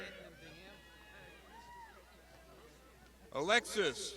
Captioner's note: crowd shouting